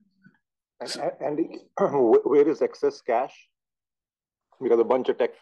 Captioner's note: cough